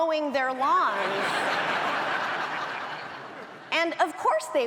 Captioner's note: audience laughs